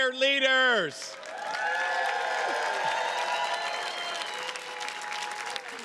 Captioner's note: attendees cheers and claps